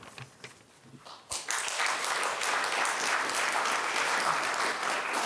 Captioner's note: audience applauding